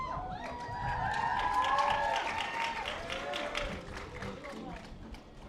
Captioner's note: audience applause